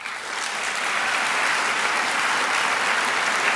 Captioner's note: applause